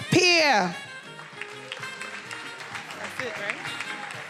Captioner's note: attendees applauding